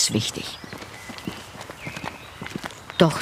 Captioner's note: birds chirping